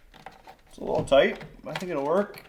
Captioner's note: metal clinking